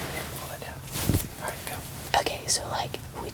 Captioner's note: whispering